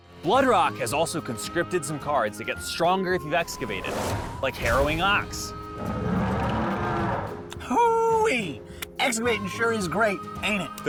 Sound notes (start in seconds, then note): 5.9 ox bellowing